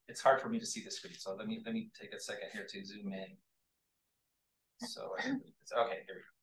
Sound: irrelevant chatter

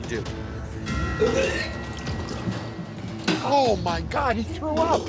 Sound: retching

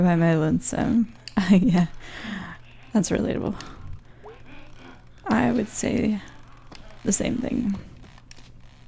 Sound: laughs

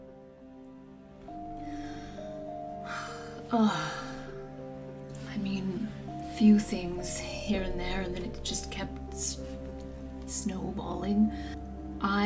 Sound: sighs in character

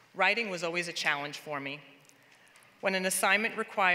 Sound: none

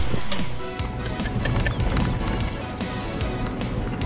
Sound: laughing

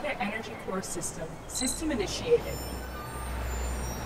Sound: robotic voice

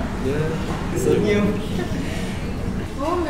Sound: laughed

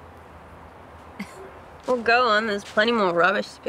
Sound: chuckles

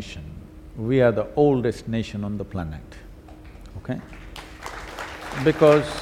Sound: applause

